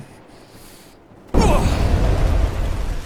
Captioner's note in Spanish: fuego rugiente